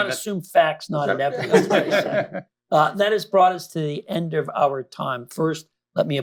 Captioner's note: laughter